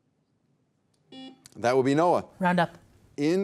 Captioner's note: beep